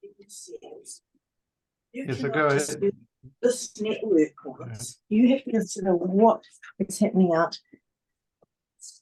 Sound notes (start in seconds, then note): 4.9 background interference noise